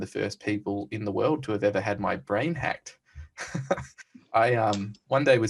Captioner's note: laughs